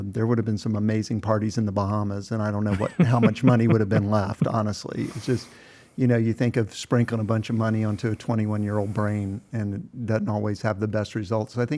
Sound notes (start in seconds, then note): 2.7 laughs